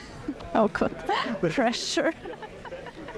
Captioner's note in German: lacht